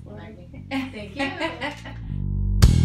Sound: laughter

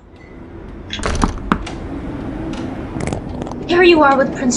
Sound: door shutting

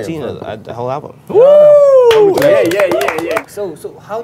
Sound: everyone cheering

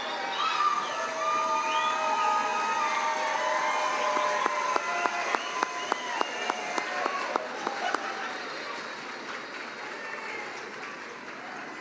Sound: cheering and applause

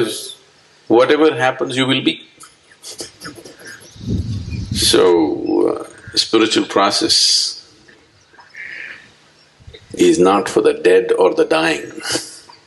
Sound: laughs

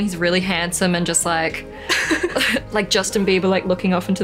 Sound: laughs

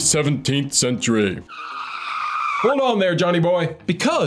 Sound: screeching tires

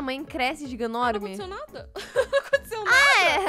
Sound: laughs

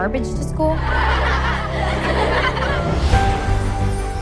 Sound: all laughing

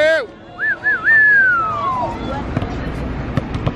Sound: man whistling

